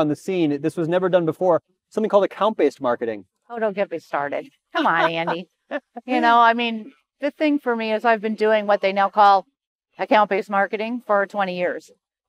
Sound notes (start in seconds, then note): 4.8 laughs